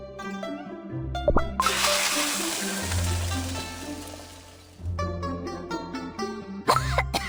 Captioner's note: sizzle